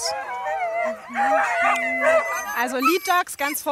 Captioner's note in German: Winseln, Bellen